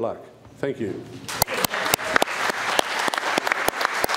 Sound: applause

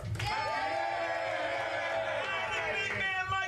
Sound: audience cheering

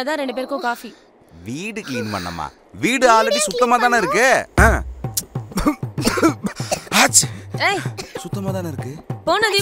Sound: sneezes

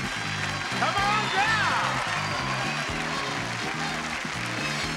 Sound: audience cheering

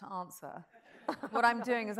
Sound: audience chuckles

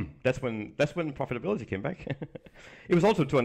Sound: chuckles

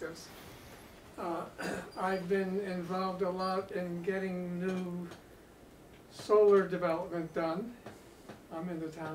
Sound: cough

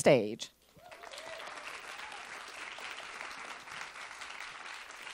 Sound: attendees applauding

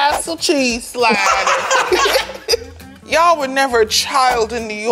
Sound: group laughs

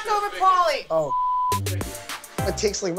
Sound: beep

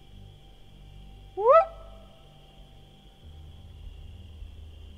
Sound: whoops

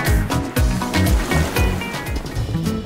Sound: coastal props wash out

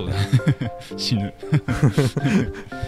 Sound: laugh

